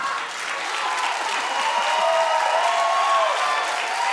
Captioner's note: audience cheering